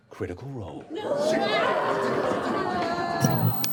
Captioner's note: yelling; 80s music